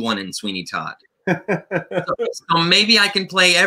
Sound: laughter

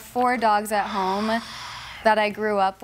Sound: sighs

